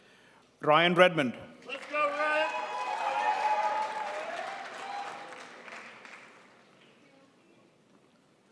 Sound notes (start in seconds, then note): 1.7 audience cheering